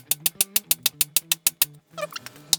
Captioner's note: metal clanking